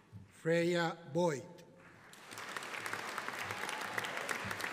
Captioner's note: audience applauding